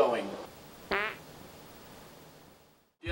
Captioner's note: fart noise